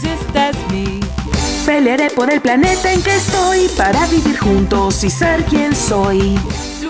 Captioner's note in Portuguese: Espanhol latino